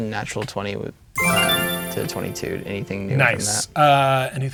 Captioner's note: triumphant sound effect plays